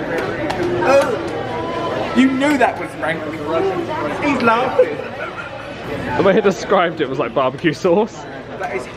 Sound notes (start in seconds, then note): 4.7 laughing